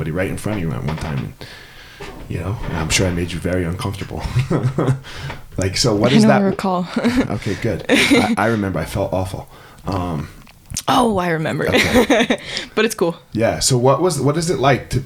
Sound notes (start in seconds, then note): 3.8 chuckles; 11.6 laughing